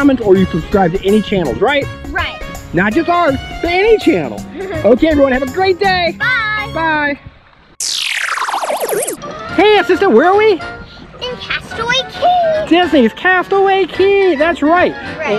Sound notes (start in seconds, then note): 4.5 laughs; 7.8 exciting music